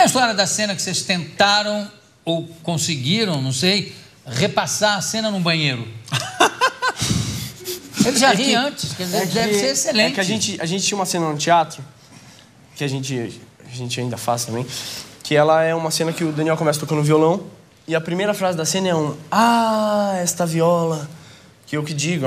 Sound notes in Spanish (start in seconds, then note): 6.1 risas